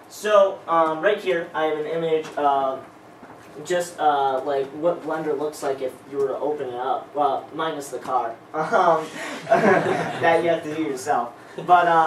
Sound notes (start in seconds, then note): 9.3 laughter